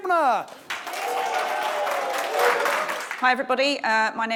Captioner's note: audience clapping and cheering